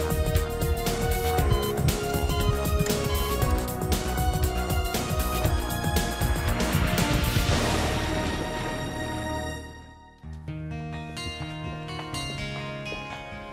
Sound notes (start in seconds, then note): 0.3 beeping; 6.7 thunder; 10.8 light music